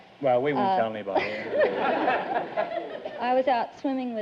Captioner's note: audience laughter